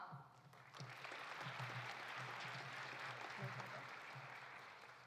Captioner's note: audience applauding